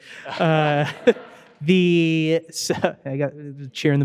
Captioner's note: audience laughing